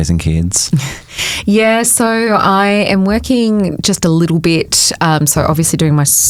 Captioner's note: chuckles